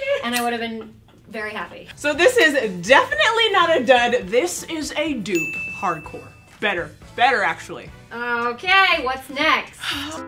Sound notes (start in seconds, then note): 5.3 ding